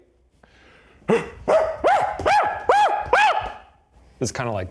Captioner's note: grunting and shrieking